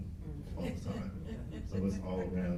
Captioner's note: laughs